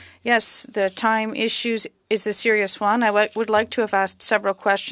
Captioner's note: speaking French